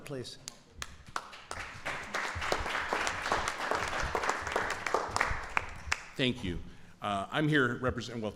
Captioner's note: applause